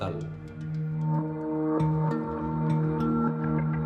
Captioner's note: reverberating tones